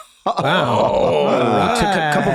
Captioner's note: all exclaiming